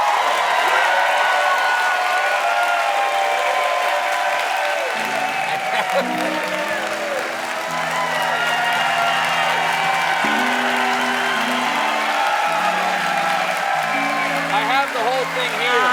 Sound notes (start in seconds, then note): 0.0 cheers and applause